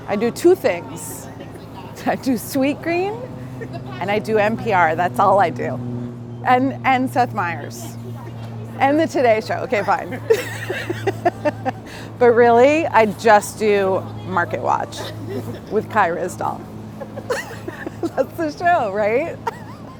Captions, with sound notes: I do two things. I do sweetgreen and I do NPR, that's all I do. And Seth Myers, and the Today Show, okay fine (laughs). But really I just do Marketwatch with Kai Ryssdal (laughs). That's the show, right?